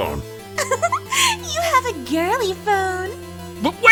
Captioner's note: laughing